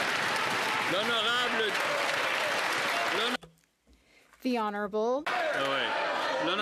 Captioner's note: applause